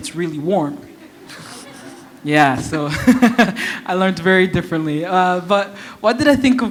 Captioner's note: chuckle